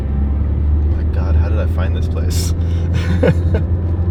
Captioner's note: laughs